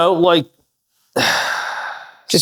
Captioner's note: sighs